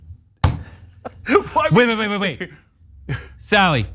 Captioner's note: laugh